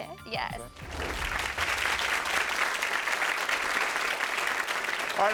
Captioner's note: audience applauding